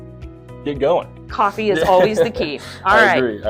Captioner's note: laughs